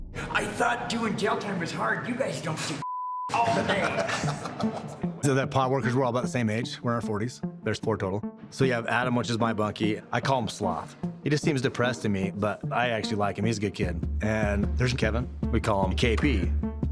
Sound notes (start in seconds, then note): 3.3 laughing